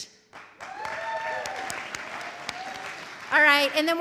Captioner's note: audience applauding; audience cheering